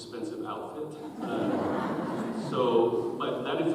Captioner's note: audience chuckles